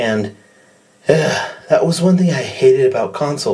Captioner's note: sigh